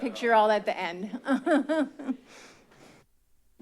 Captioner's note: laugh